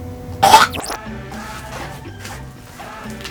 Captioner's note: man coughing